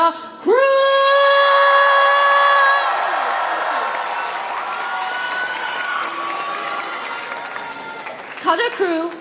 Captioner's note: cheering; applause